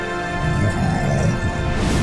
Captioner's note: grunting